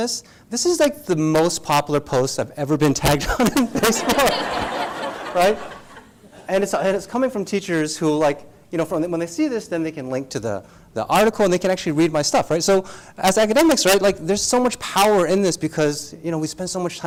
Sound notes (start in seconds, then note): 3.3 laugh